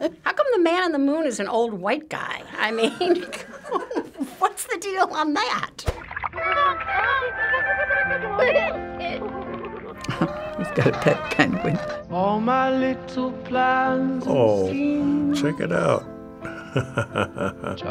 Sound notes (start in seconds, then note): 5.8 boy giggles; 5.8 cheerful music; 10.0 laughs; 16.4 chuckles